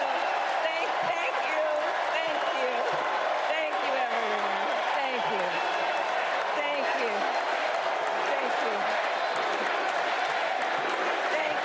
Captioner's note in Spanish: aplausos